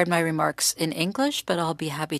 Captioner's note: speaking French